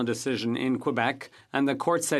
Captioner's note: speaking French